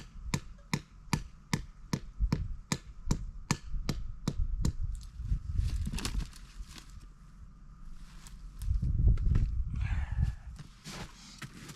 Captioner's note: hammer tapping